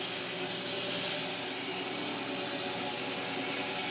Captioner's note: mill whirring